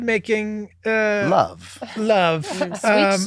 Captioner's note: group laughing